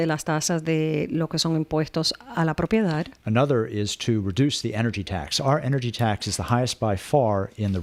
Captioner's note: Hablando ingl\s